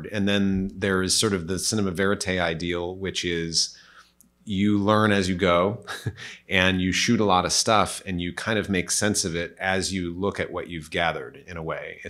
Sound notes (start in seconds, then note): 5.8 chuckles